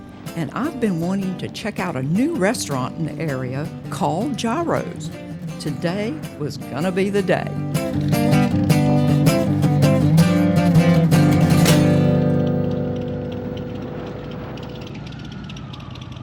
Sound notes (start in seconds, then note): 7.7 engine rumbling; 7.7 peaceful music